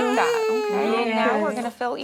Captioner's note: baby crying